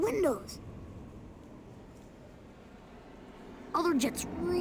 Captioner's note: jets rumbling